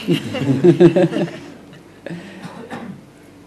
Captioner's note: laughter